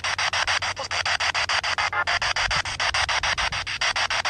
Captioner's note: spirit box sound